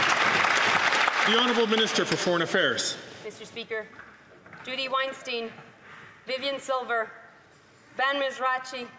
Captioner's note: some Applause